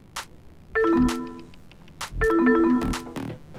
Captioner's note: electronics beep; electronics beep